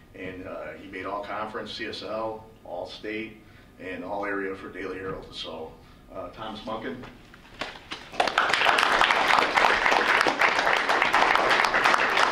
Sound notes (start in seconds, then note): 7.8 applause